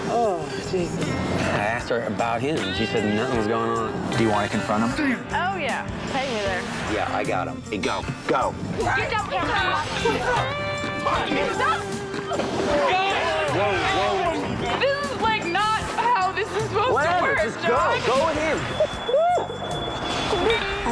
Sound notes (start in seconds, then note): 10.4 scuffles